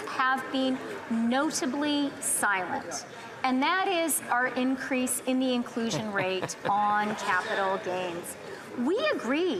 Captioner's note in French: voix de l'interprète